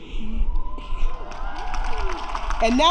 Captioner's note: applause